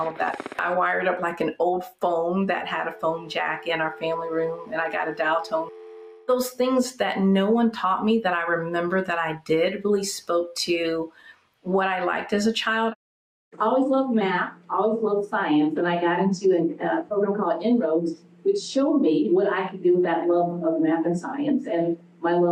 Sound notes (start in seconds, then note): 5.3 dial tone